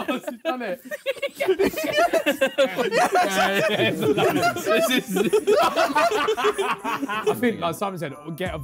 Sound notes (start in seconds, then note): 0.0 Sidemen laughing; 4.2 laughing